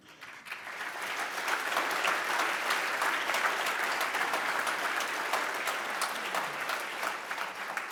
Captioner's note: applause